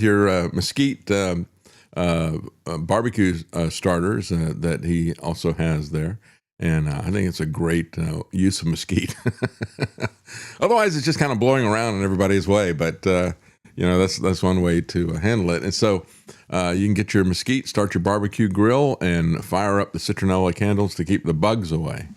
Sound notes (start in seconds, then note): 9.0 laughs